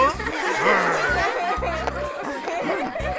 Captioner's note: צחוק